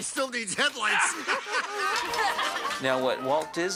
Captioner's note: all laughing